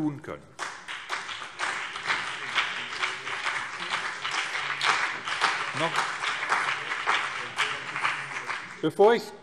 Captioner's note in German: Beifall BÜNDNIS 90/DIE GRÜNEN und CDU